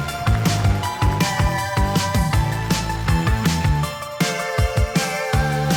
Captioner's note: audience cheers and applauds; upbeat music continues